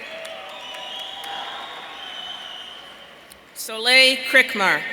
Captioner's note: audience cheering